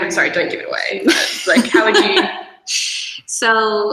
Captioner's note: laughs